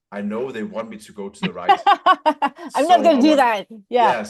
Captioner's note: laughter; laughs